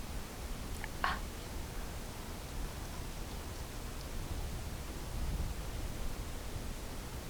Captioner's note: gasps